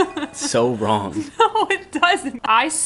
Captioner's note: laughing